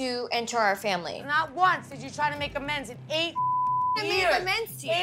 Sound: beep

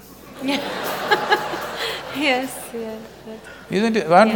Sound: laughs; laughter

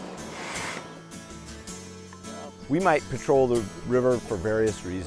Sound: air pumping

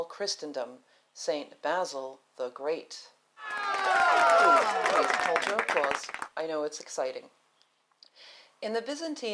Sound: applause

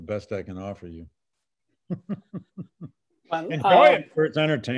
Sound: laughs

